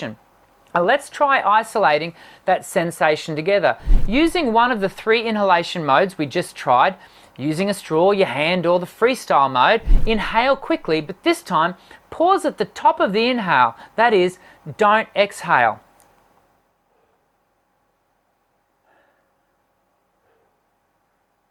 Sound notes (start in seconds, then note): 17.2 inhales deeply